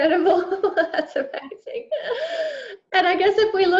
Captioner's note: both laughing